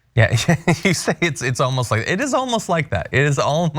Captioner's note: laugh